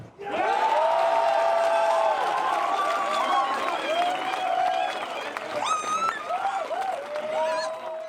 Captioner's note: crowd Cheers